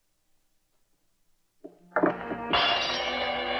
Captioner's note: crash